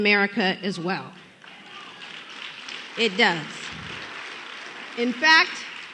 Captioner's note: applause